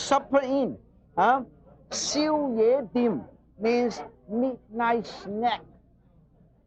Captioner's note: in foreign language